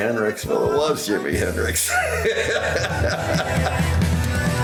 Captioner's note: laughs